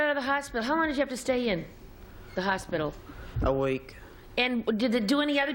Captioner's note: none